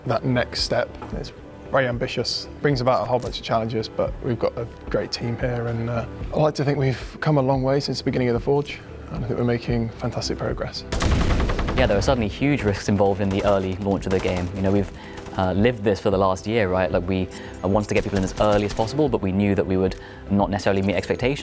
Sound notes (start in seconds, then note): 10.9 gunshots; 10.9 explosions